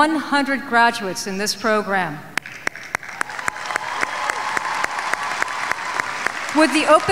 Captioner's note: applauding